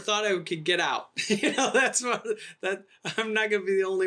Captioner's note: laughing